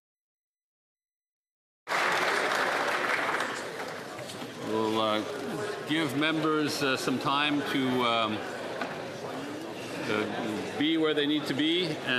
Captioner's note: applause